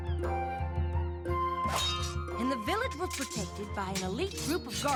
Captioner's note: clang!